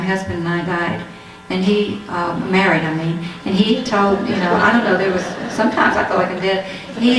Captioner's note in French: rires